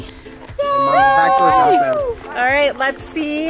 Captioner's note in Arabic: الجميع يهتف